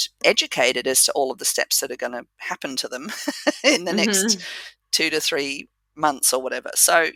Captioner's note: laugh